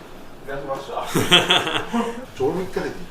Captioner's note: laughs